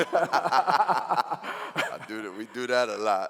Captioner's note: laughing